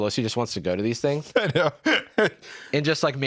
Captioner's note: laughs